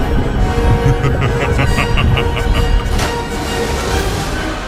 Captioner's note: evil laugh